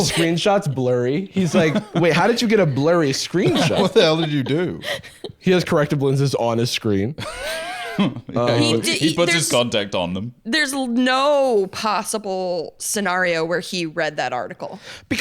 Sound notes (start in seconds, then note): 7.2 laughs